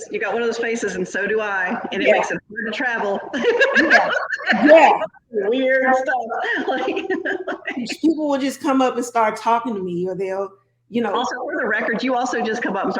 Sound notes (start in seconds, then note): 2.6 laughs